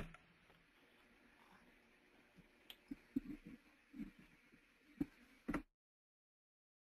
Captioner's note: three minutes of silence